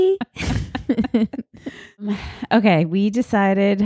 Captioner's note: laughing